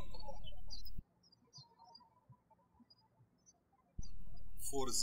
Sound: birds chirping

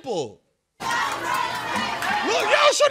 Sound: protesters chanting

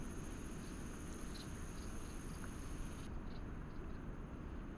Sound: bugs chirping

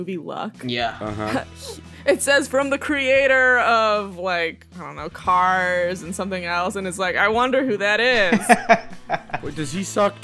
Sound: laughter

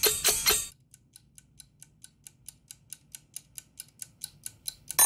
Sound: chirping; ticking; alarm blaring

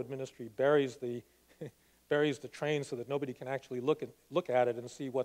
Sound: laughs

